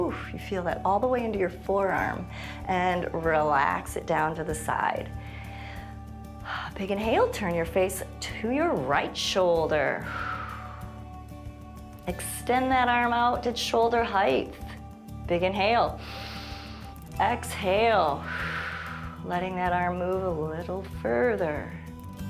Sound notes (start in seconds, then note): 10.0 exhales; 16.0 inhales; 16.0 exhales